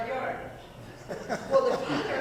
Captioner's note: audience laughing